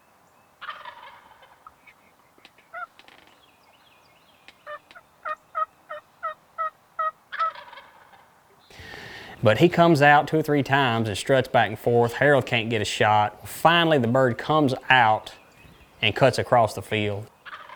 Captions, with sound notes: (turkey gobbles) (turkey calls) (turkey gobbles) But he comes out two or three times and struts back and forth. Harold can't get a shot. Finally, the bird comes out and cuts across the field.